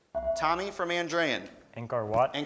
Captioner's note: beeping